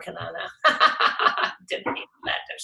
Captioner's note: laughs